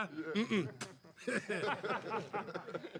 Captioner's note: spits, laughs